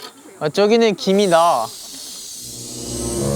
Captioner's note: boiling